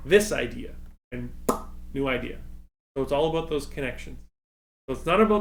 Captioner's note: pop